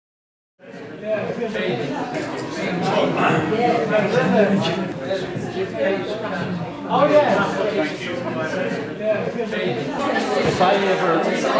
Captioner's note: background chatter